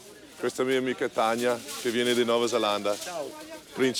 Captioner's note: speaking in Italian